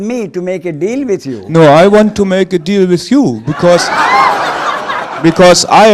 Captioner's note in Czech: smích